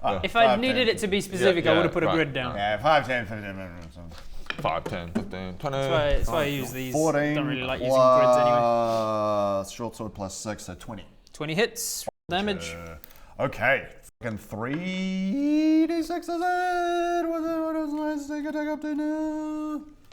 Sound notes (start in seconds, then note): none